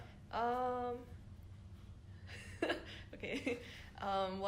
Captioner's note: laughs